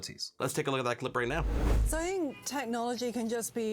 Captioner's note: air whooshes